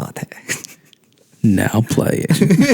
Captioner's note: narrator voice